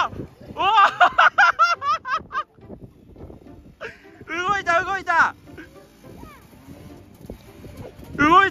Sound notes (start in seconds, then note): 0.0 laughs